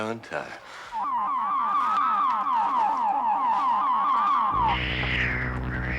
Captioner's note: crystal warbling; Sleestack hissing; dramatic synth music